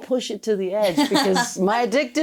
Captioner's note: laughs